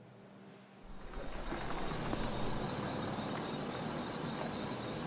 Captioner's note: motor humming